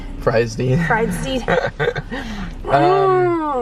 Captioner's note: chuckles